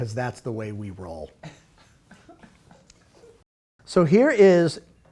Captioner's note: laughing